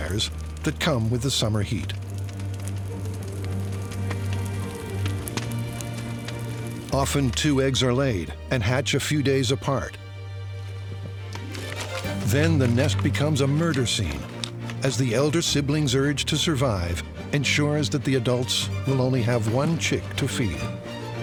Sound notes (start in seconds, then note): 2.5 fire crackling